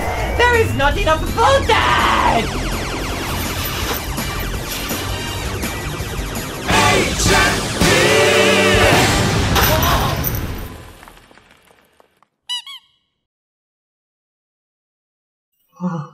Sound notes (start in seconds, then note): 2.3 laser firing; 8.9 explosion